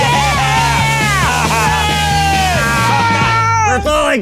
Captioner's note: laughing